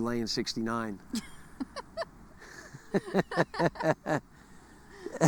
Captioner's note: couple laughing